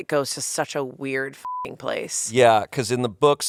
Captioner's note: beep